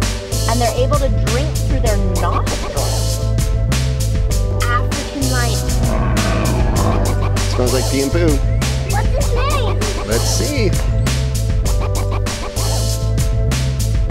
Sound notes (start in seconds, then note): 5.4 growling